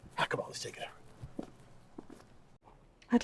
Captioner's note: footsteps tapping